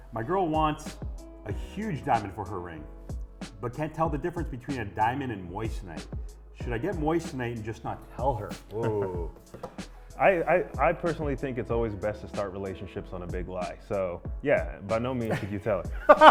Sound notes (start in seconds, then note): 9.0 laughs